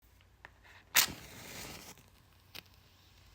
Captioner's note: match strikes